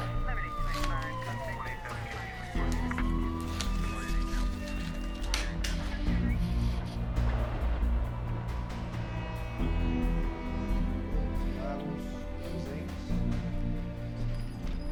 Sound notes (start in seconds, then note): 0.2 sirens; 9.2 horn fading